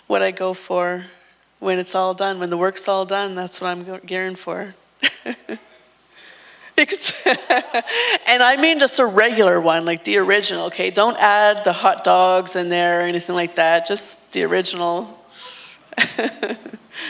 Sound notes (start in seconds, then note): 6.8 laughs